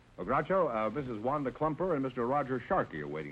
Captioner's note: none